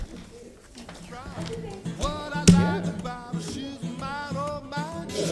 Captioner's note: gavel sounding